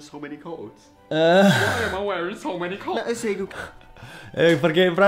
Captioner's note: laughs